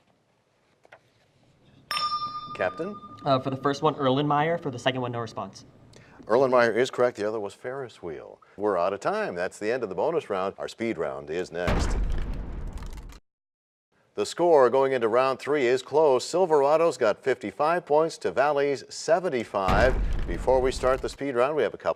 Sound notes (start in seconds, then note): 13.2 crashing sound